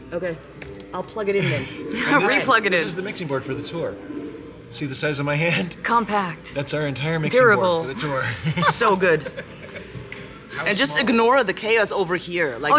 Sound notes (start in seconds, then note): 8.2 laughter